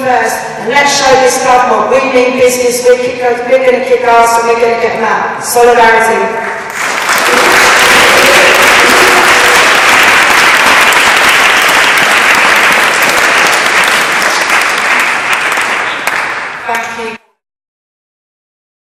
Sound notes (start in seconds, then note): 6.6 applause